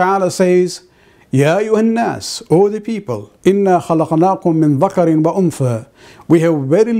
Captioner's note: arabic